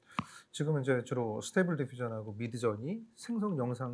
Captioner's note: speaking korean